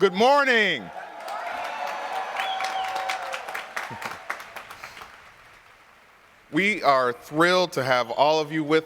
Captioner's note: applause